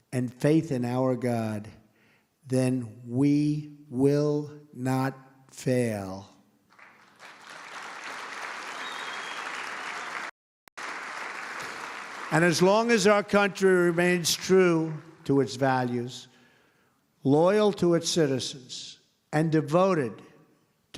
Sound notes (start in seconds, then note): 8.7 applause